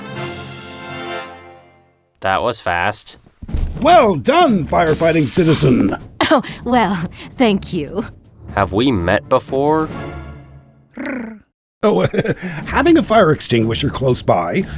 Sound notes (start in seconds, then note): 11.1 speedy trills awkwardly